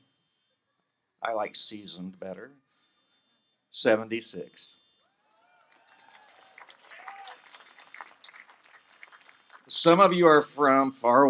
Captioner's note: applause